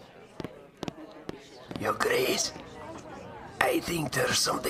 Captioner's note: whispers, to be polite